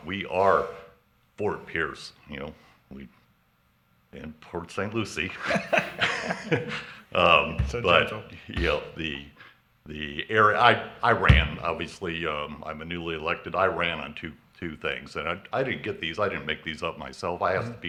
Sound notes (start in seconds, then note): 5.3 laughs